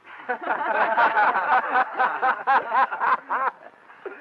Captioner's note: everyone laughing